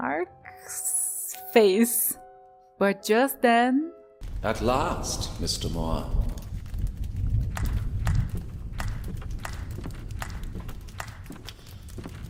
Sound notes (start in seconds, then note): 6.6 slow clap